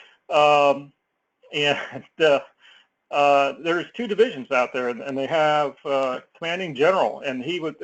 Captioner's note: laugh